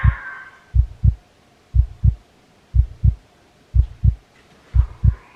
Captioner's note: heartbeat